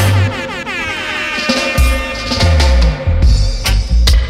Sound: airhorns sound

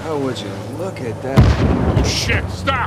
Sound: explosion

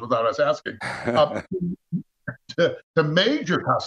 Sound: laughs

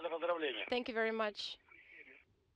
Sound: foreign language

